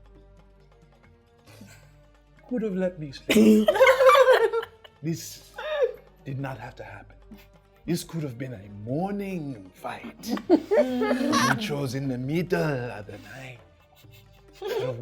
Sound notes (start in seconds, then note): 3.3 laughing